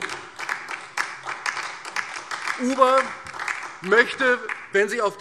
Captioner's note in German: Beifall DIE LINKE und SPD